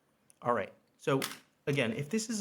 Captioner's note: object clacks